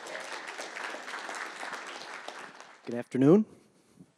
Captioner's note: applause